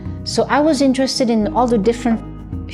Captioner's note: none